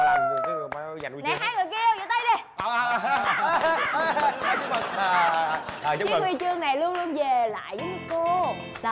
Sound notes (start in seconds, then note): 3.0 laughing in agony